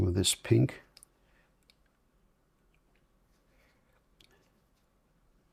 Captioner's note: silence